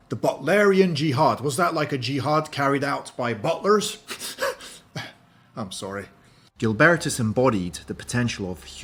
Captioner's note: laughs